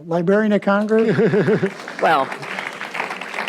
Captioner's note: audience applauds